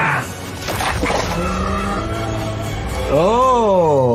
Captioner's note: exoskeleton crunching